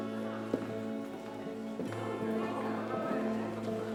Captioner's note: heels clack